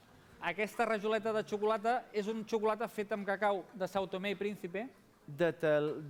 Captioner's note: non-english speech